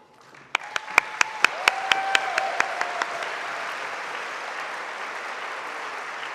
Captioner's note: audience applauding; audience cheering